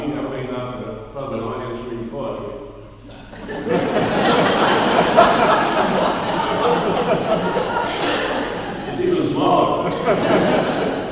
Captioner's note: laughing